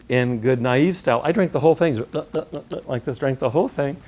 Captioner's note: gulp, gulp, gulp, gulp